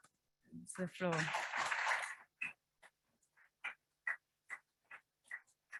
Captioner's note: audience applauds